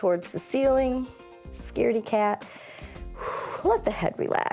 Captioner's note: inhales and exhales